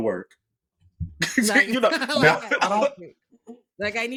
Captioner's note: laughing